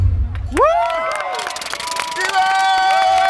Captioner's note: crowd cheering and applauding